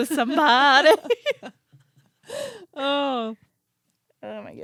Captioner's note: both laughing